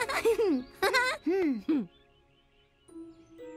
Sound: chuckles

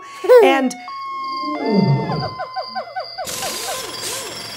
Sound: air whooshing

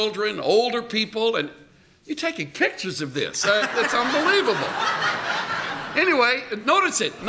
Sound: laughter

